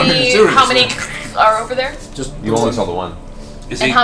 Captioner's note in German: Monstergeräusche